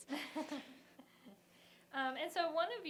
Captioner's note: laughter